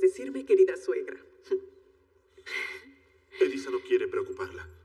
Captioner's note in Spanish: Ríe